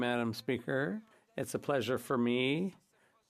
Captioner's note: speaking French